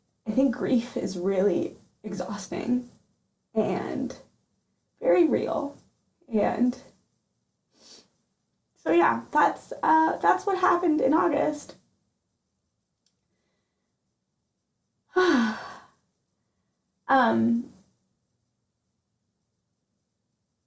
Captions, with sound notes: I think grief is really exhausting and very real. and so yeah, that's, uhh... that's what happened in August [deep, audible sigh] umm..